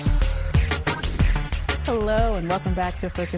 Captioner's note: air whooshes